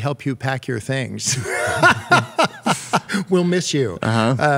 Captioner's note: laughter